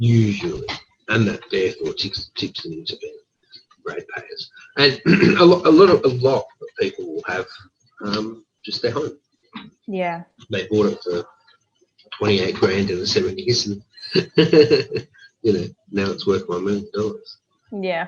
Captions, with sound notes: Usually, and that therefore keeps them in the RAD payers. And a lot of people will have just their home. They bought it for 28 grand in the seventies (laughs) and now it's worth $1 million.